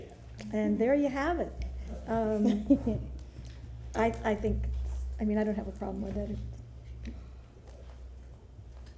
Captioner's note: laughter